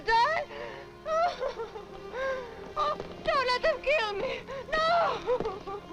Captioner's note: weeping; sobbing